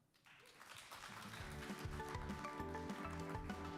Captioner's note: audience applause; upbeat music